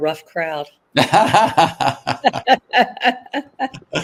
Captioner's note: laughter